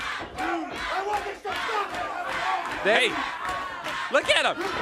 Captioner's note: crowd cheering